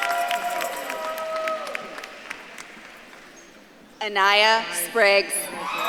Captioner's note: audience claps and cheers